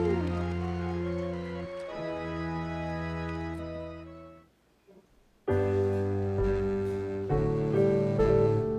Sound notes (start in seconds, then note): 3.7 audience applauding; 3.7 instrumental music